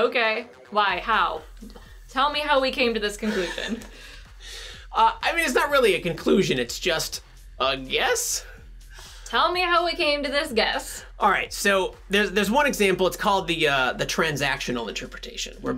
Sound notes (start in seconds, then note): 3.2 laughing